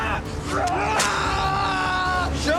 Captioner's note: Murrell screams